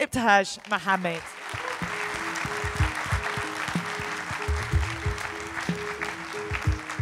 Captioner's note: audience applauding